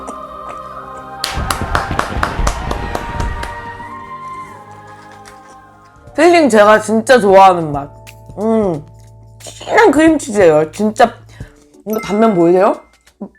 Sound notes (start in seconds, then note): 1.2 can't help clapping!